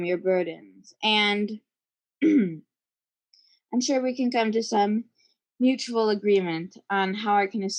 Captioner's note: clears throat